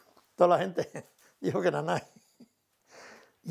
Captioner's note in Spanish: ríe